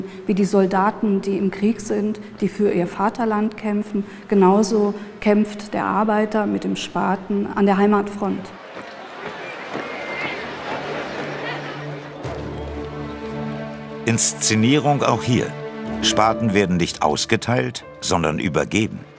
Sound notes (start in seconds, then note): 8.4 energetic footsteps, babble of voices; 12.1 melancholic music